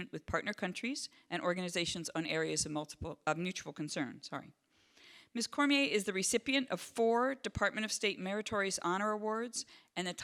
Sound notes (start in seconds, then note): none